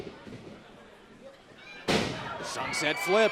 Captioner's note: crowd cheering